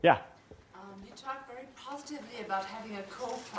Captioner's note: voiceover